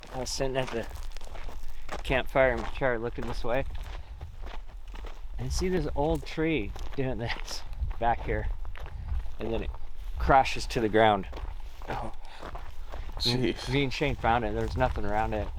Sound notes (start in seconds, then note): 12.4 footsteps crunching